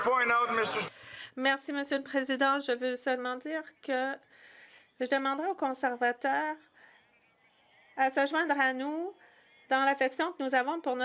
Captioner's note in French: voix de l'interprète